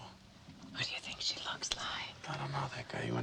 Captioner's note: Hope, whispering